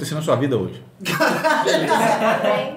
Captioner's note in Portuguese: risos